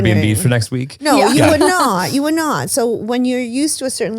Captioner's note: laughs